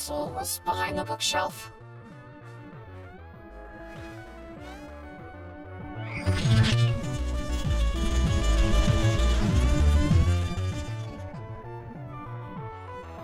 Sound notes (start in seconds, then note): 6.2 doors rumbling